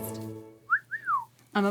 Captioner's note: wolf whistling